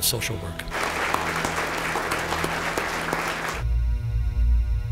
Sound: applause

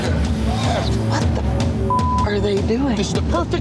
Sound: beep

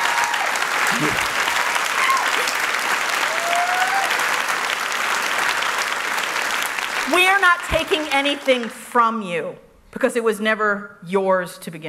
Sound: applause; cheers

